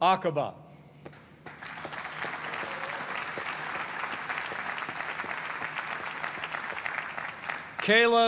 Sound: applause

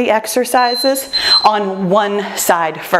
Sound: timer beeps

